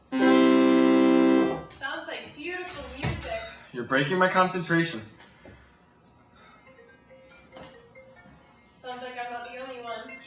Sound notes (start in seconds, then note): 6.6 phone rings